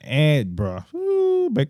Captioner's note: speaking In Foreign Language